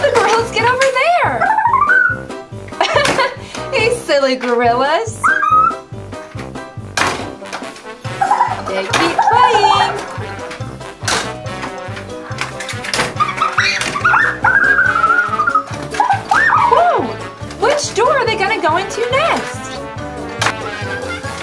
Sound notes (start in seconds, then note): 2.7 laughs